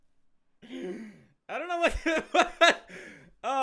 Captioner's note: laughing